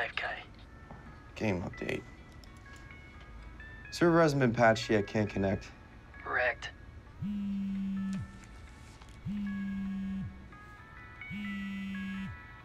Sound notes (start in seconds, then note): 0.9 light electronic music; 6.9 phone buzzing